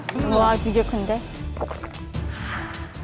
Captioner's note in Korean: 침 한번 삼켜주고